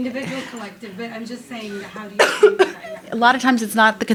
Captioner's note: coughing drowns out speaker